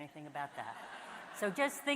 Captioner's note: audience laughs